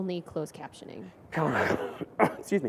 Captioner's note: coughs